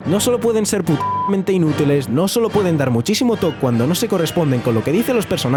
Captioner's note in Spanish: habla ruso